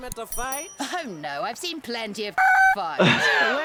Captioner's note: rooster crows